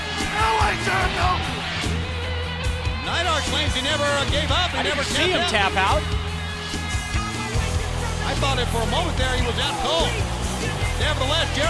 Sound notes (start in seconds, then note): 4.8 crowd chatter